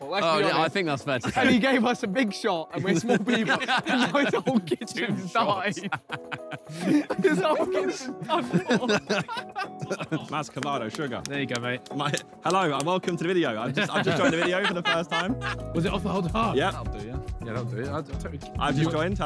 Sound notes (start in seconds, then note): 4.0 Chris laughing; 8.6 all laughing; 15.6 laughing